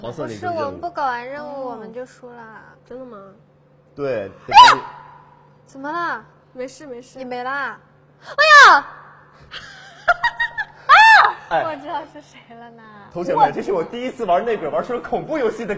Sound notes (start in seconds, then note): 4.5 screaming; 9.5 laughing